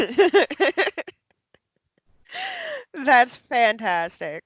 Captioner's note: laughs